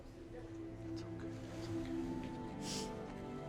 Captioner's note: Tommy whispers